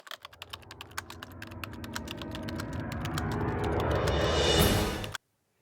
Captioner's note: typewriter sounds